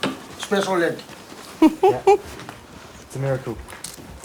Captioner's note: audience laughs